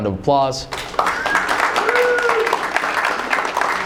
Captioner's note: applauding